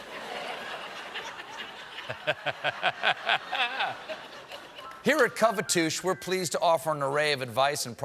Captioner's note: laughter